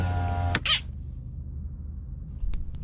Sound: whirring stops

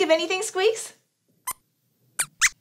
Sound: Squeaks thinks, then squeaks some answers

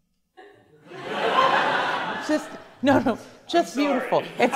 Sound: class laughs

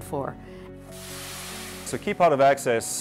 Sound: engine hisses

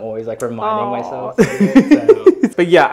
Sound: laughs

